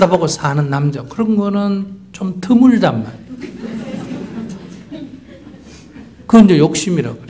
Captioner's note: audience Laughter